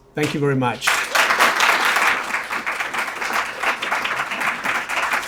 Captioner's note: audience applauding